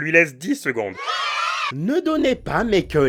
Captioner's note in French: Crie d'enfants joyeux